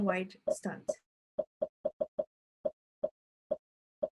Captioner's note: popping